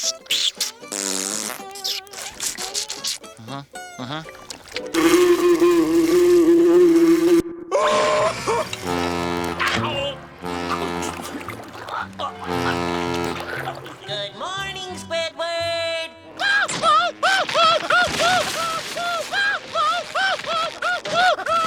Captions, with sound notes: Mm-hmm. Mm-hmm. [buzzing] [screaming] [horn blowing] Oh! [horn blowing] [choking] [horn blowing] Good morning, Squidward! [shrieking]